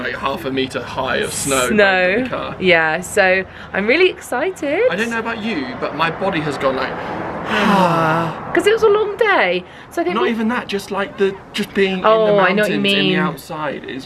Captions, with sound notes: half a metre high of snow- - Snow. - Around the car. - Yeah. So I'm really excited. - I don't know about you, but my body has gone like ... (both sigh) - 'Cause it was a long day! So I think- - Not even that! Just like the, just being in the mountains- - Oh, I know what you mean! - In the outside.